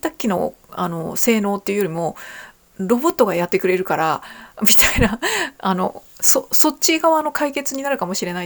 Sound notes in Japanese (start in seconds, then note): 5.5 笑い